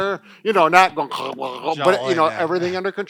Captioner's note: gargling